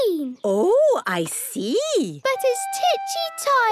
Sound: none

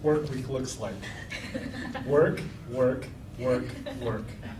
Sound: laughing

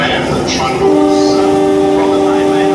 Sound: horn

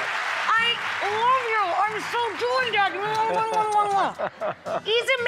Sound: audience applauds; kissing sounds

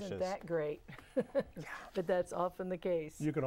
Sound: laughing

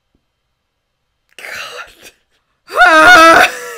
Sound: scoffs; loud sigh

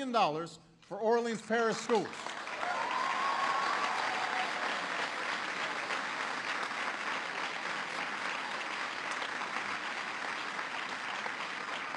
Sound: applause

